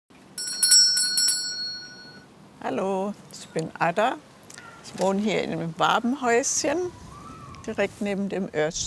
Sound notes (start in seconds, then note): 0.3 ringing